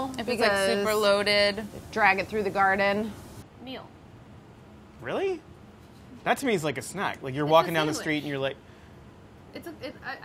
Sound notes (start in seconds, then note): none